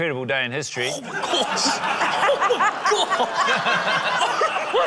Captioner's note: laughter